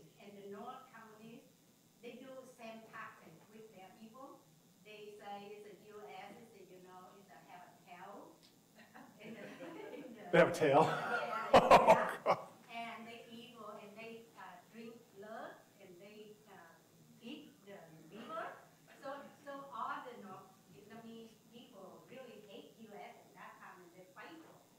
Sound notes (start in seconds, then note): 8.5 audience laughing; 10.7 laughing